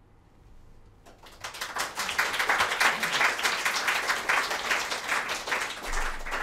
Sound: applause

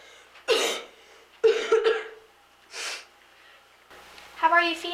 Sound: Willie coughs

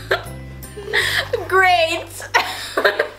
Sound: laughs

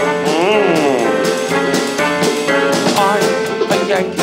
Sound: Don humming

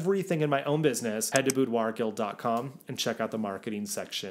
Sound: graphics click

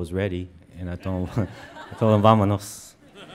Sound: speaks in foreign language

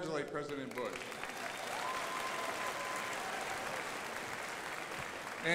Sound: crowd applauding

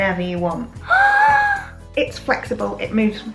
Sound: gasp

